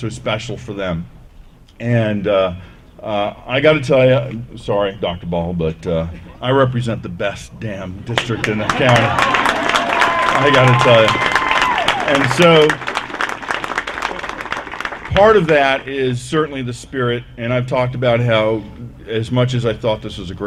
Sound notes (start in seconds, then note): 9.4 applause